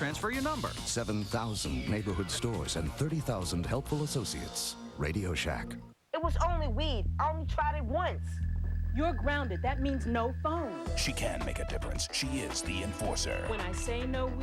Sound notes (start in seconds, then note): none